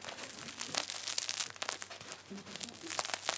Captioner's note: grinding